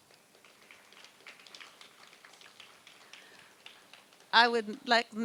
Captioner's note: applause